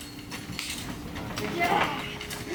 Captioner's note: palms slap